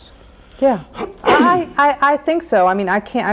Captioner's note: man coughs